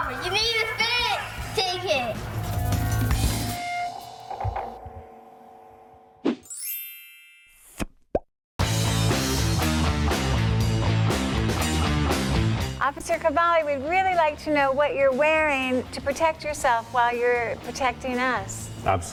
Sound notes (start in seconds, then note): 6.4 chimes tinkling; 6.4 frame whooshing; 8.6 rock music